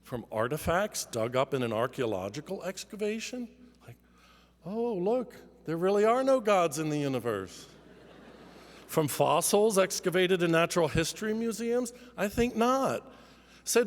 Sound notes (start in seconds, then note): 7.7 laughter